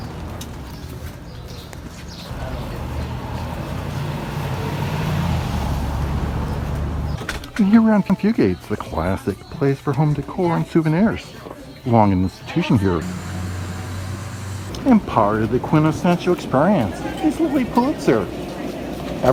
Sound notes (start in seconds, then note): 5.2 cars roaring